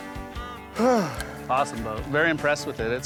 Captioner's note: country music; sighs